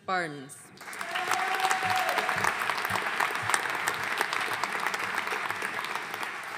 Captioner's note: audience cheering and applauding